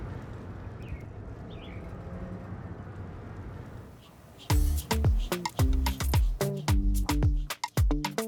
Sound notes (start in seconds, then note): 3.4 bird tweeting, whirling sound